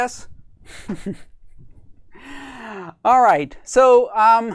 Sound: laughs

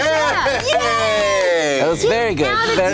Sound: cheering

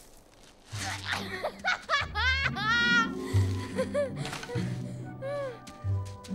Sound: laughing

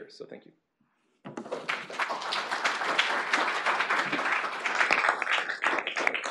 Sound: applause

